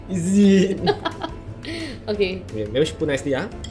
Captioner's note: laughs